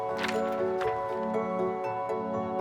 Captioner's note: paper flaps; light uplifting music continues